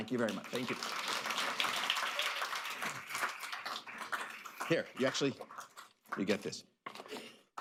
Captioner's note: applause